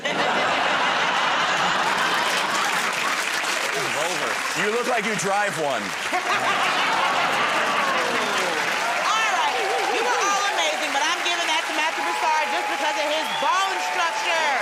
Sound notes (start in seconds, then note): 0.0 laughter; 6.0 laughter